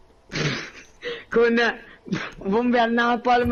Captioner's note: laugh